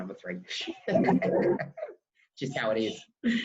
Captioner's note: laughs